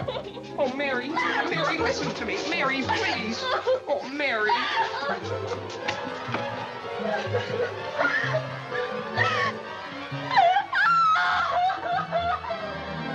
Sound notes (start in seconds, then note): 4.4 sobbing; 10.3 cries louder